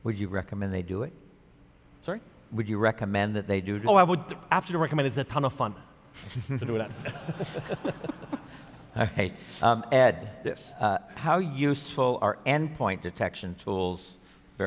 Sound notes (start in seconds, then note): 6.2 laughter